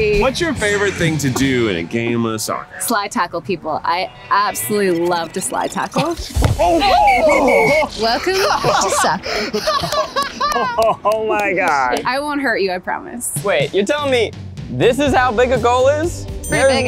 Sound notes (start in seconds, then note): 6.6 whistle blows; 9.7 laughs